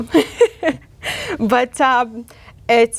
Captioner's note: laughs